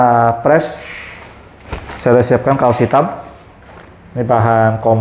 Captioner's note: covering paper noise